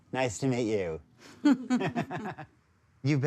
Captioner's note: both laughing